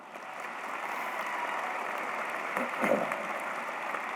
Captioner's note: applause